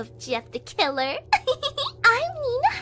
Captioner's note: giggling